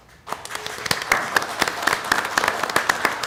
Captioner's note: applause